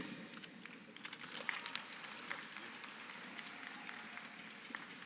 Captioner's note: applause